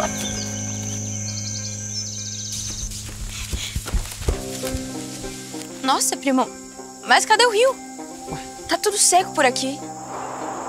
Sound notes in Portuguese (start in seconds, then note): 0.3 Pássaros; 2.4 Ruídos de solo seco